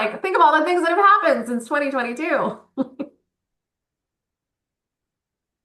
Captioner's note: laughs